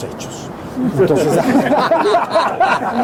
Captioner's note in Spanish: risas